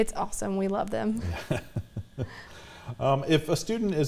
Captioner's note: laughter